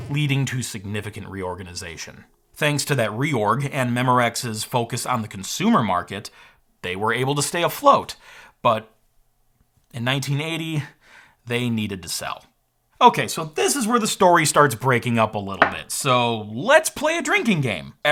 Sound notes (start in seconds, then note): none